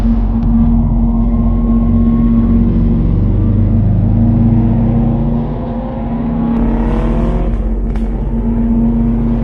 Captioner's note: eerie drone, car driving